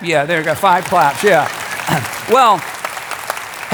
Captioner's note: crowd clapping